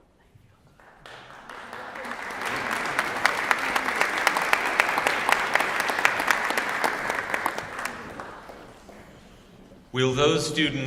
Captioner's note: applause